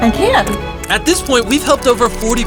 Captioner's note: shutter clicking